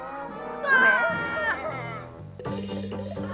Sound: shaggy and scooby scream

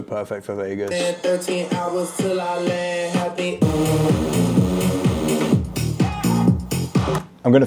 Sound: atmospheric sounds

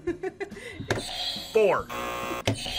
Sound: React laughs; buzzer; buzzer rings

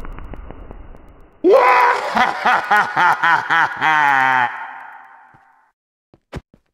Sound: Wario laughing

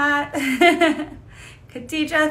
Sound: laughing

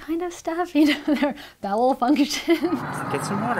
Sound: laughs

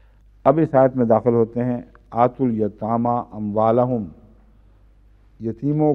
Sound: Arabic

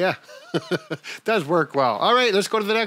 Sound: chuckling

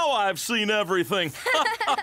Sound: laughing

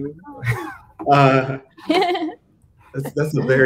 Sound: all laughing

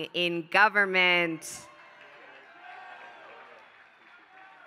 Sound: applause

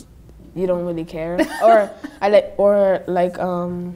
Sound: laughing

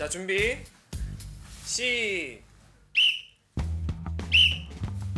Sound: whistle

